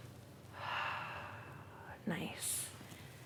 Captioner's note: exhales